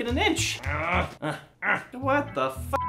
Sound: grunts

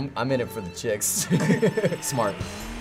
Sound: laughter

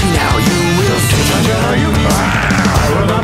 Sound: roar

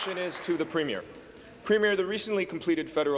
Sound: applause

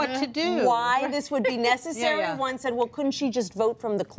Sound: laughs

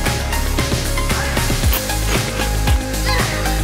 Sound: munching

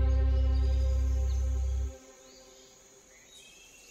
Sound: crickets chirping

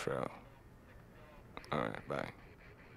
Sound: in English

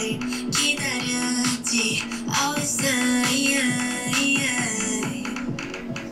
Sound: none

